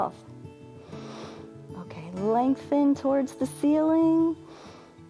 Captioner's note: inhales